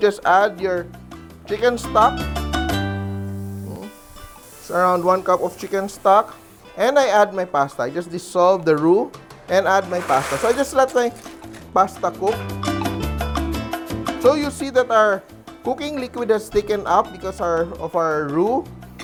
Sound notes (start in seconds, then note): 4.0 sizzle